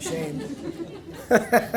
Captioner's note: laughter